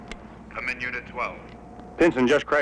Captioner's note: man On Radio